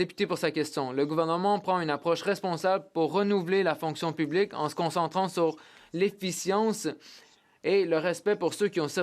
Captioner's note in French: voix de l'interprète